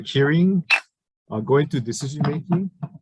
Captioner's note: sounding gavel